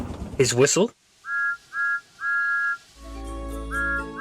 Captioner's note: peep peep peeep!